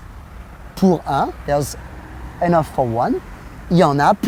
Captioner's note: speaks in foreign language